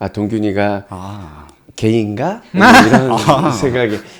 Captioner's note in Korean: 웃음